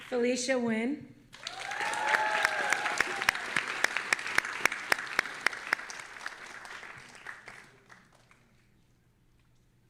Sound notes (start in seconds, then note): 1.3 audience applauding and cheering